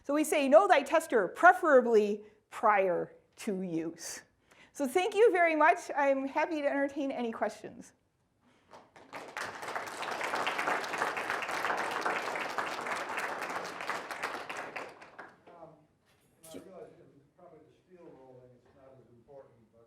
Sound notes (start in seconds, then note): 8.6 applause